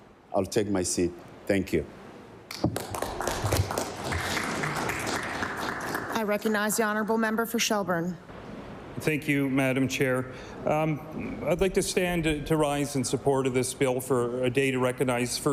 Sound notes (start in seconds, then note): 5.0 applause